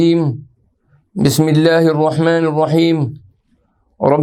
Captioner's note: arabic